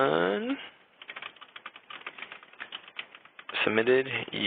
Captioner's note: typing